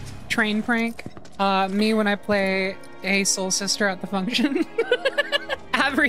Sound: laughter

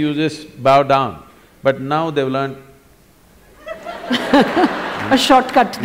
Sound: laughter

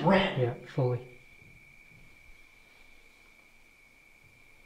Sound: more footsteps

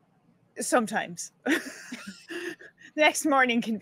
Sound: laughing

